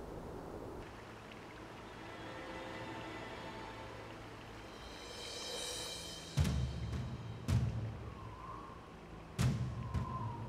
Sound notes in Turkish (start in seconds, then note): 0.0 Akarsu sesi; 9.7 Müzik - Gerilim